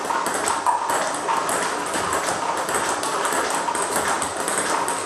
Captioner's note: ball ping pong hitting continues